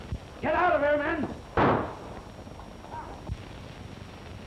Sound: gunshots

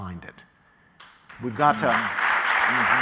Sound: applause

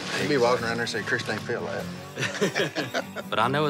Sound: laughing

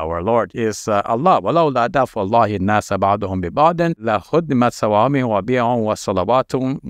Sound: recites verse in Arabic

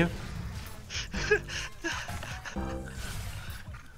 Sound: laughing

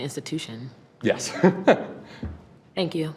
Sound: laughs

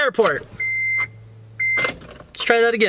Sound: beep

